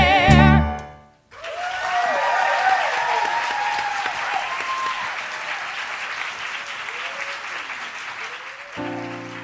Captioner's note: applause